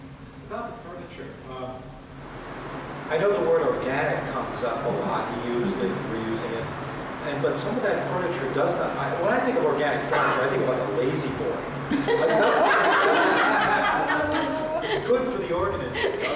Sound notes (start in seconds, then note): 11.9 laughter